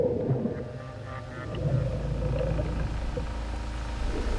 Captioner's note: rustling